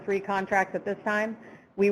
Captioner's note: none